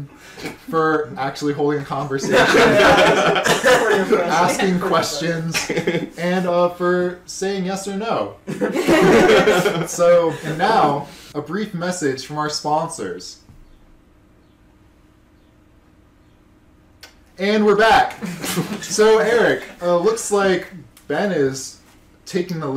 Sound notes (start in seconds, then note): 14.2 horribly awkward silence as everybody realizes they have no sponsors